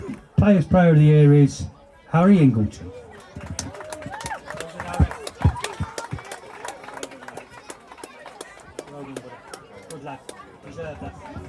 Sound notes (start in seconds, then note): 3.1 applause